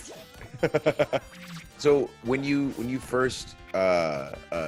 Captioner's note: laugh